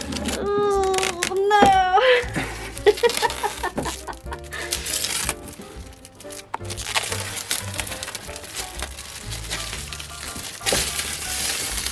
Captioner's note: oooohhh noooo